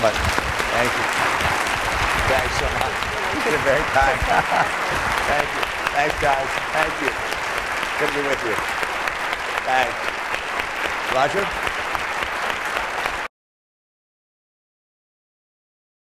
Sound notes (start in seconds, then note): 11.5 applause